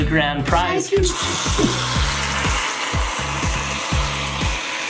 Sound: whip cream spraying

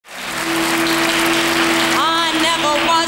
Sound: audience clapping

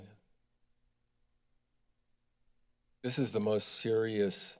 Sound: silence

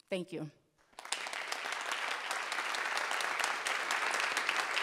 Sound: audience applauding

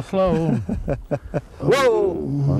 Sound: laughter

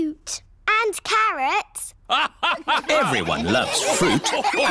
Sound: all laugh

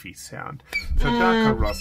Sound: squeaking

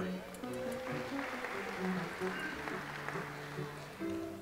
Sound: audience applauds

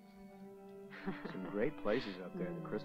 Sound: softly talking off mic; ominous music; Christy lightly chuckles

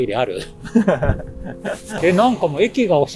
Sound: laughs

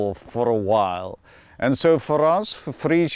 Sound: none

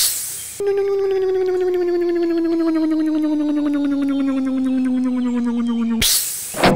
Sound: hiss; electric motor hum; hiss; click

